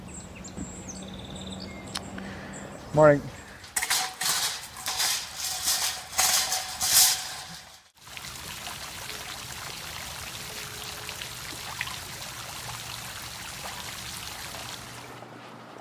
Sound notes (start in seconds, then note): 0.0 birds chirping; 1.1 traffic humming; 3.6 cart rattling; 7.9 water splashing